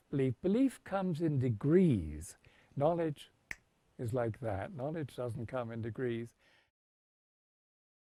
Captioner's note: snaps fingers